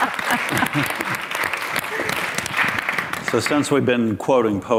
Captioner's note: all applaud